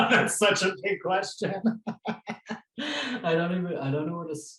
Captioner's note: laughs